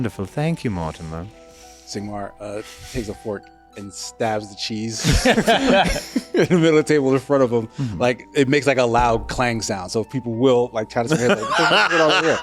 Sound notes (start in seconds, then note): 5.0 laughs